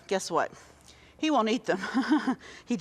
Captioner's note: chuckles